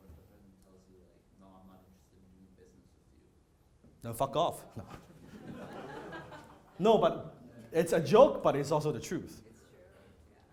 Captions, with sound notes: when the person tells you no, I'm not interested in doing business with you? - Then fuck off, no. (audience laughter) No, but it's a joke but it's also the truth.